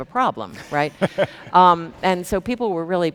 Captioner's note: chuckles